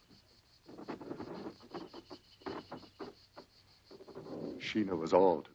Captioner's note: ropes creaking